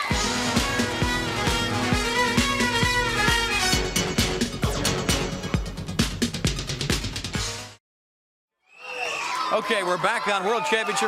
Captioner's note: crowd cheering